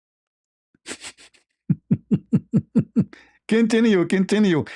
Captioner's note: ketawa